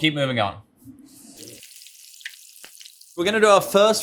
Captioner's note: oil sizzling